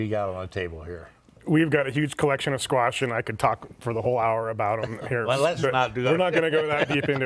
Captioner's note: laughter